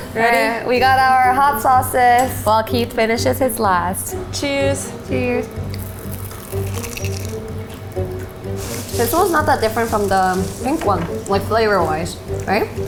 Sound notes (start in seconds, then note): 5.7 corn dogs crunching; 5.8 tense music